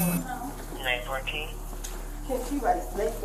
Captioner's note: officer On Radio